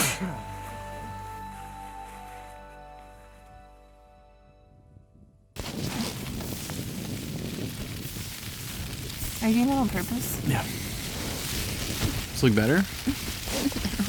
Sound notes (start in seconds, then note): 0.0 sneezes; 5.5 wind blowing; 5.6 rain pouring